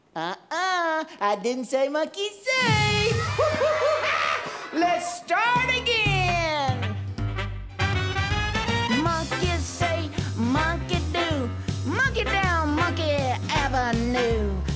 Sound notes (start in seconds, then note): 3.1 laughter